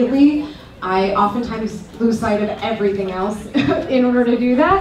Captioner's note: chuckles